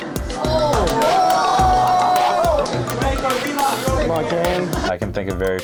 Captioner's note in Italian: la folla esulta